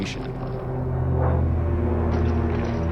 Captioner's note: airplanes droning